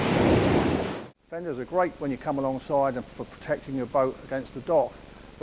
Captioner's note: waves crashing